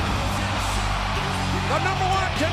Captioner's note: audience cheers